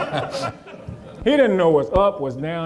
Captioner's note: audience laughing